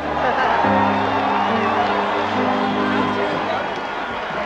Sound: applae and cheering

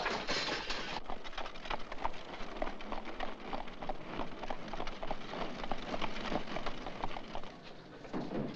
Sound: hooves trotting rapidly

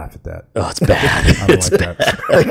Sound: laughs

